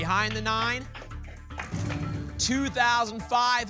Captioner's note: applause